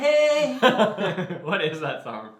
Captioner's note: both laugh